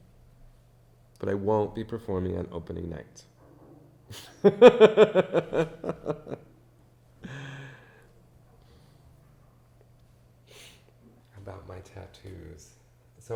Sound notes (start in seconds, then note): 4.2 laughs